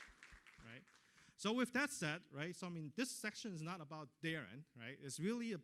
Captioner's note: applause